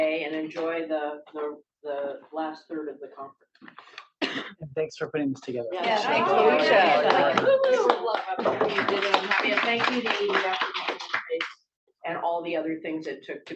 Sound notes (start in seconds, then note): 8.7 applause